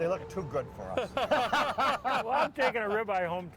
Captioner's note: laughing